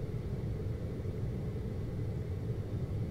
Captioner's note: air conditioning